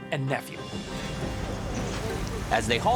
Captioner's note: water splashing